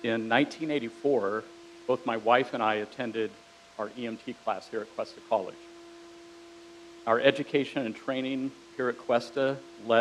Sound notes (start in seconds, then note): none